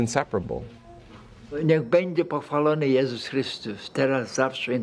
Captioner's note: speaking Polish